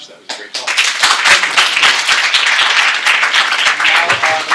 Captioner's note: applause